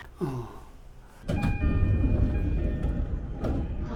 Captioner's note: train door chimes